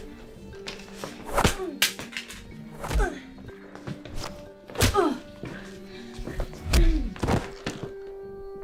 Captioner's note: grunts